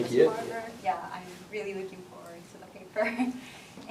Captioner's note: laughter